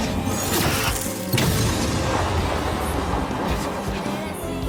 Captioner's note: laser blasting